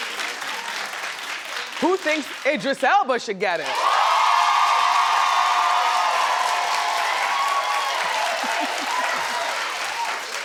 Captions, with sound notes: Who thinks Idris Elba should get it? (audience cheers) (audience applauds)